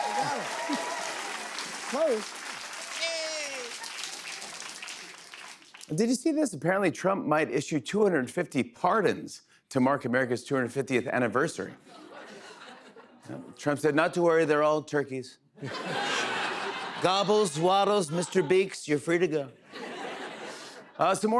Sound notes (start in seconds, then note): 0.0 cheers and applause; 15.6 laughter; 16.9 As Trump; 19.7 laughter